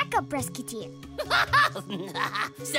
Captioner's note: laughing